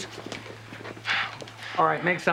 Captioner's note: Evan sighing